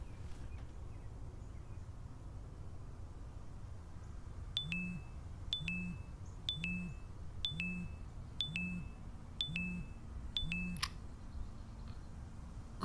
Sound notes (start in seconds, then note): 5.5 phone chiming